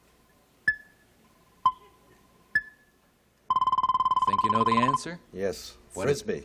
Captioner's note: beeping